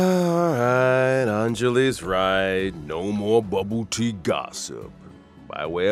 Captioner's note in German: seufz